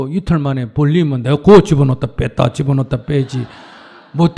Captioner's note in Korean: 청중 웃음